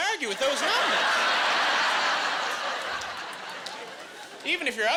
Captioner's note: laughing